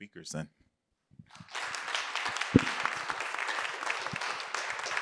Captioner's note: applause